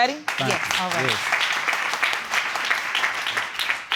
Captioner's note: audience clapping